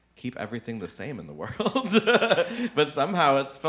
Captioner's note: chuckles